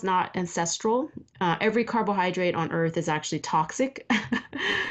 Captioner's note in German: lacht